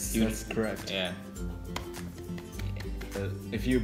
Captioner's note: applause; 鼓掌